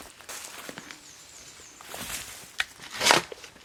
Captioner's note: digging